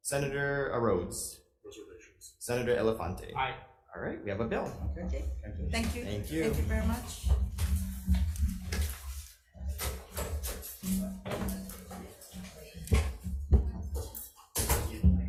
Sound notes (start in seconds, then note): 7.6 paper rustling; 7.8 footsteps thumping